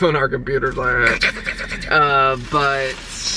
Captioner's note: imitating typing sounds